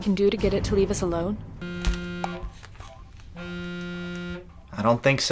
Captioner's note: phone buzzes